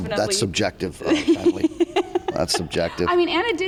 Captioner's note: laughs